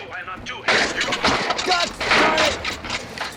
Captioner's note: car clattering